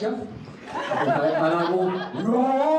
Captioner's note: crowd laughing